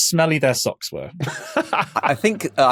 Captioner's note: laughs